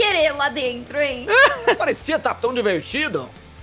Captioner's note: laughs